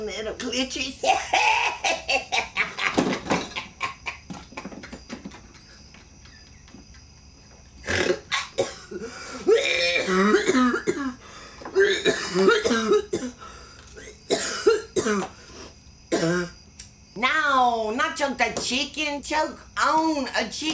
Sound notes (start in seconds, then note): 7.6 laughs; 7.8 coughs